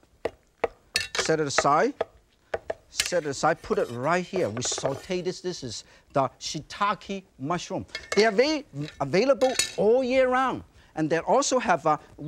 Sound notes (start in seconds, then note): 0.9 knife thudding and clinking; 3.6 knife swishing; 7.9 knife clinks